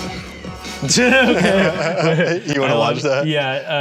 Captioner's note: everyone laughs